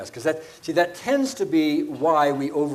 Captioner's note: none